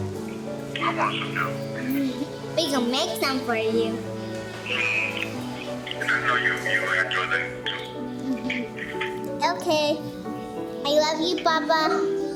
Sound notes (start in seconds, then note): 2.3 laughs